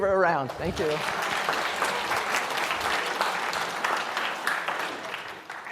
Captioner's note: applause